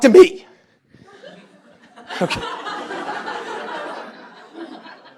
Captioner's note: laughter